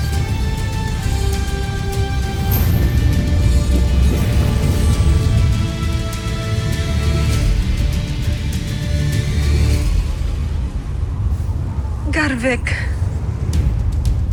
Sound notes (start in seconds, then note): 0.0 celestial chimes; 7.0 music fades; 11.0 wind howling